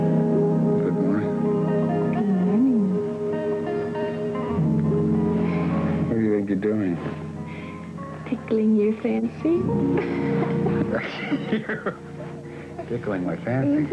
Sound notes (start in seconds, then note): 9.9 they both laugh